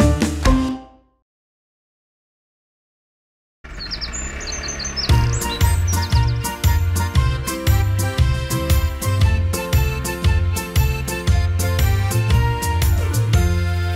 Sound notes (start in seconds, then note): 3.6 engine rumbling; 3.6 birds chirping; 5.2 upbeat music